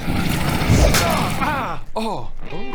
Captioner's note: crash